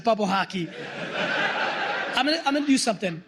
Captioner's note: laughter